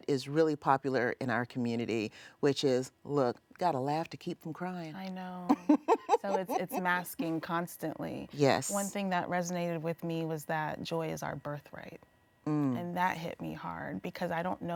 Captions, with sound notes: that is really popular in our community, which is, look, gotta laugh to keep from crying. [laughs] - I know, so it's masking constantly. One thing that resonated with me was that joy is our birthright, and that hit me hard,